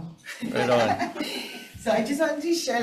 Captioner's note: people laugh